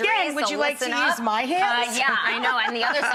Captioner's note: laughs